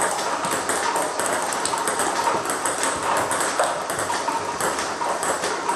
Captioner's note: ball ping pong hitting continues